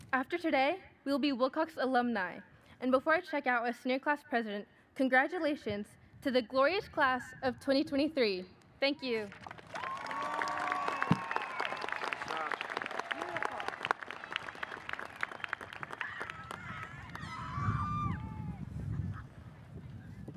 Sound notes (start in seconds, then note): 9.8 audience cheers and applauds; 15.4 audience members cheer